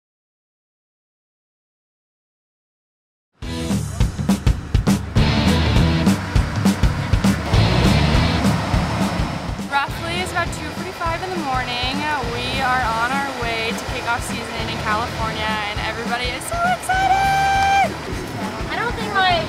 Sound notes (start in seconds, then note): 7.6 engine humming